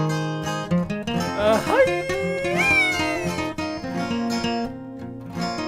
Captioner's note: yell